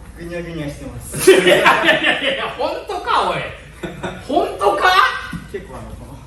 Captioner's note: laughs